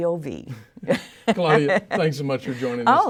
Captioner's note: laughing